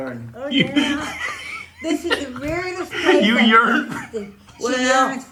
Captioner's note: laughing